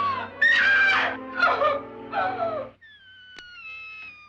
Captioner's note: person screaming; person sobs; door squeals